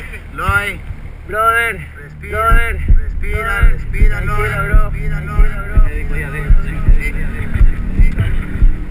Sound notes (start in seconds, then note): 0.6 tense music; 1.6 speaking Spanish